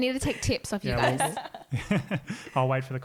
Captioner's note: laughing